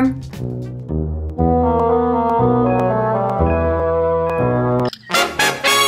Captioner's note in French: bip de l'ordinateur; musique orchestrale douce